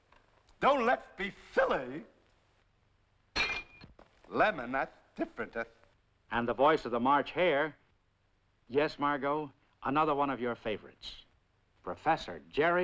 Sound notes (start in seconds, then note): 3.4 dish Breaking